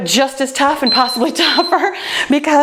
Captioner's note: timer beeps